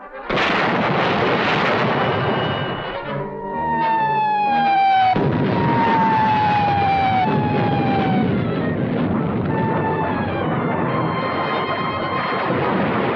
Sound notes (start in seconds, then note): 0.2 gun firing; 3.8 whining; 4.2 explosions